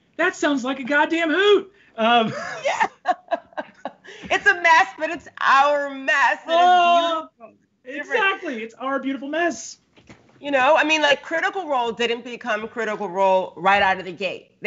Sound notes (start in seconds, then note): 2.1 laughs